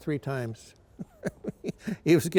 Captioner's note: chuckles